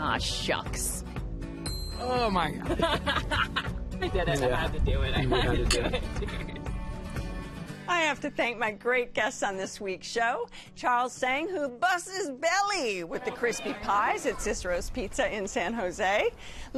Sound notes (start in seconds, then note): 2.7 laughs